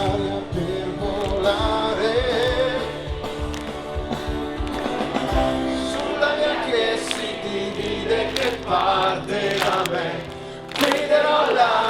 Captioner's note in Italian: Applauso